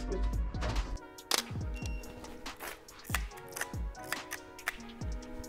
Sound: camera shutter clicks

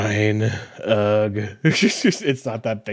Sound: groaning

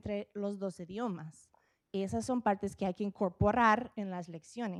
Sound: speaking Spanish

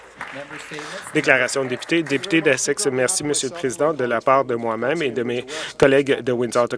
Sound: applause

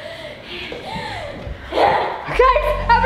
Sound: heavy breathing

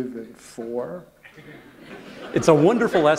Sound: laughter

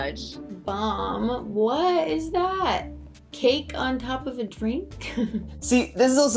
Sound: chuckles

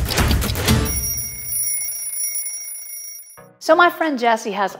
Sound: alarm bell ringing

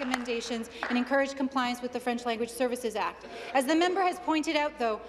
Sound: applause

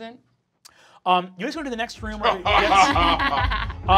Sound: group laughing

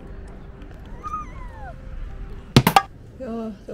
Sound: screaming

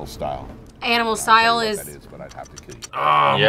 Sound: kisses

